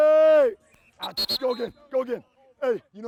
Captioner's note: whistle blowing